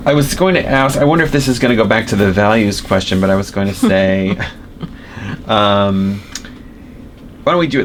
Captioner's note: laughter